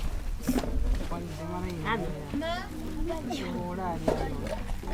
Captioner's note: crowd chattering